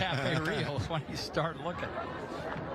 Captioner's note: laughter